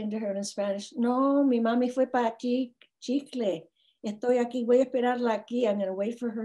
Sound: speaks in foreign language

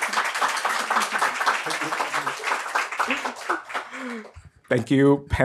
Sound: crowd applauds

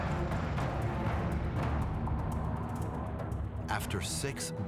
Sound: airplane engines buzzing

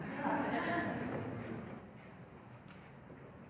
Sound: laughter

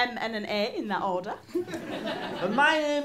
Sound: audience chuckles

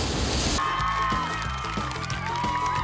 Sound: cheers and applause

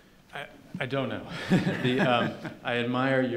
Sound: laughing

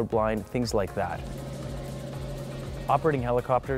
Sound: helicopter sounds

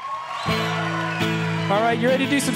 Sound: audience cheering and applauding

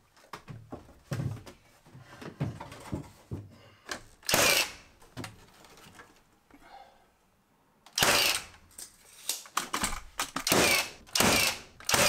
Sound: sped up sounds of putting together divider wall

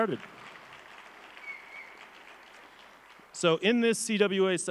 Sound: crowd applauds

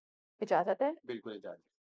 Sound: in Urdu

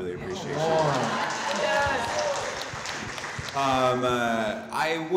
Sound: audience clapping

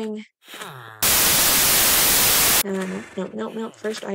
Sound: static

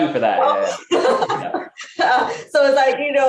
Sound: laughs

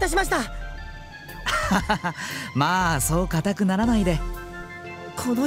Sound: laugh

